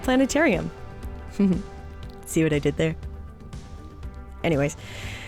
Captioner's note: light chuckle